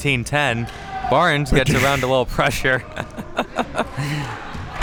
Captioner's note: laughing